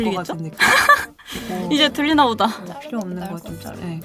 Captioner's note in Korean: 웃음